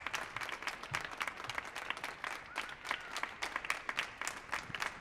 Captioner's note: audience applauding